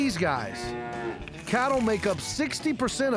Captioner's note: cows mooing